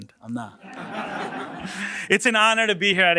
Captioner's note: laughs